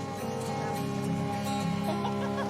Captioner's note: laughing